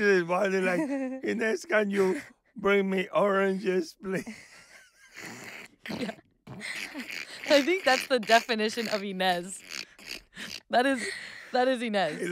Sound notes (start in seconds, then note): 0.0 José laughing; 6.4 laughing